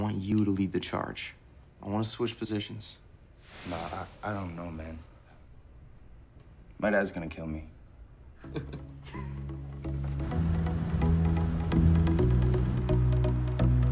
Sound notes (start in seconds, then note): 8.4 laughing; 8.4 light electronic music